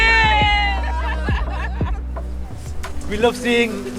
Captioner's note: passengers laughing